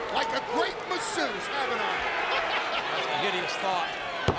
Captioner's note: laughs